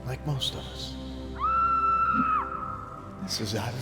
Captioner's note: Sarra screaming